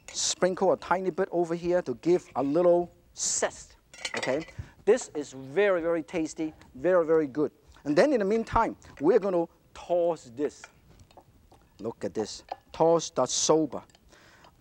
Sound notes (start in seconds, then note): none